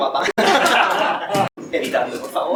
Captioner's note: laughs